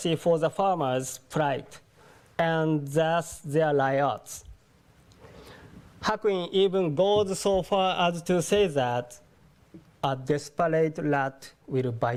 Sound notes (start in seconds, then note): none